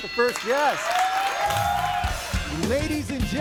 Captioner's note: audience applauds and cheers